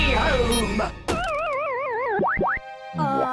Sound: beeps; shuts down

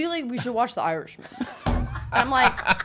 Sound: laughing

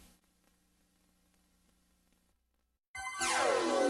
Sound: silence; 80s synth music resuming

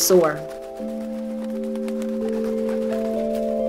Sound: feathered wings flapping; soft chiming music

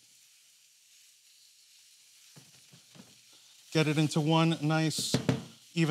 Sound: sizzling

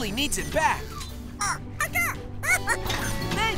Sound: squeaking

